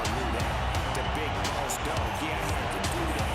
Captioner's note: crowd cheers